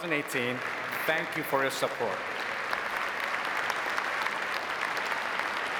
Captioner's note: audience applauding